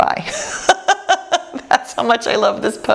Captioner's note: laughs